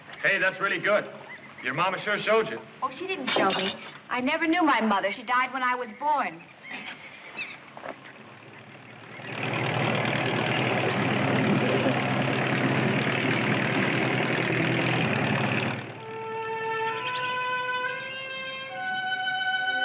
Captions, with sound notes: >> Hey, that's really good. Your Mama sure showed you. >> Oh, she didn't show me. I never knew my mother. She died when I was born. (engine sputtering) (soft orchestral music)